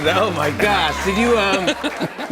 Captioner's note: laughter